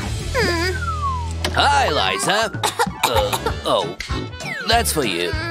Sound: coughs

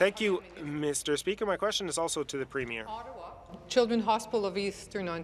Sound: speaking in French

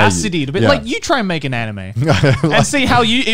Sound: laughing

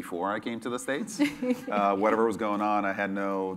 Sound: laugh

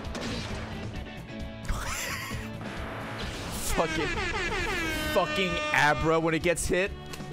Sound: laughs

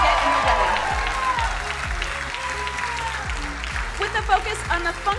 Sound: crowd cheering and applauding

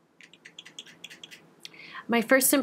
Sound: clacking

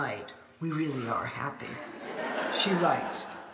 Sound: audience laughing

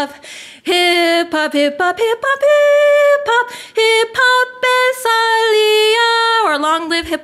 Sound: foreign language

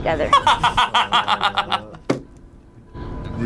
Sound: laughs

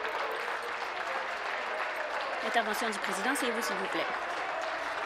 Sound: applause

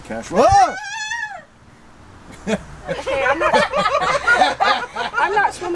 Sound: screams; laughter

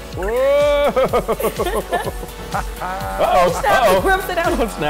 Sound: laughing; exclaiming

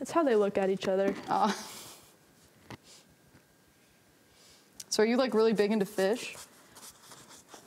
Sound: chuckles

